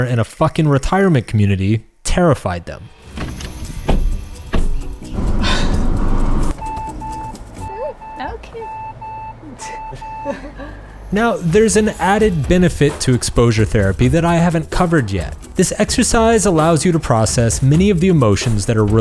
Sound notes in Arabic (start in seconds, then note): 2.9 موسيقى أوركسترا درامية; 5.8 صافرة السيارة